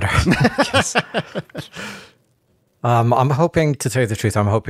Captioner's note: laughing